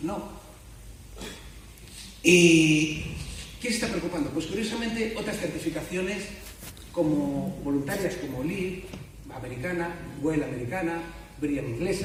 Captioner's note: Spanish